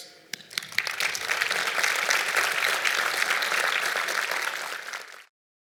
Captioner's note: clapping